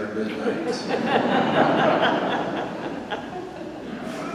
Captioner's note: congregation laughs